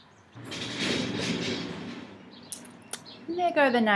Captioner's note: loud crashing noise